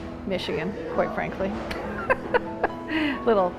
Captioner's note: laughs